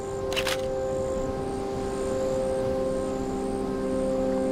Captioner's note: camera shutter clicking